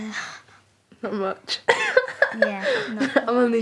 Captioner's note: laughing